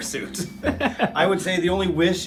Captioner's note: laughing